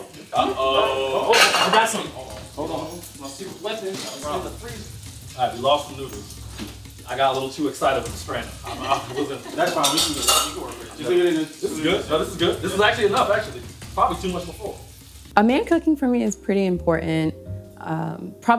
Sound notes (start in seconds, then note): 8.6 laughing; 9.8 indistinct chatters